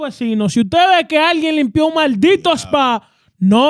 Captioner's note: speaking In Foreign Language